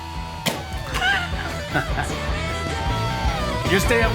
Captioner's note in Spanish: Ríe